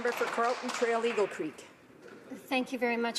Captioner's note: some applause